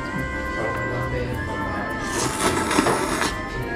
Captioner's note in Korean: 후루루룩